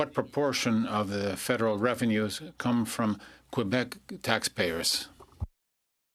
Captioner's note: speaking French